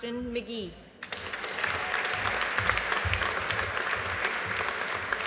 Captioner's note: audience applauding